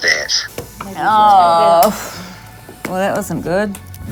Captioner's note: person sighing